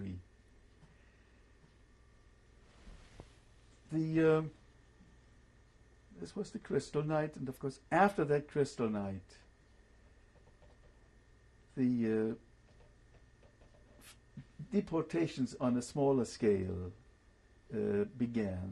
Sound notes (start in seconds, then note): 9.1 pauses for 3 seconds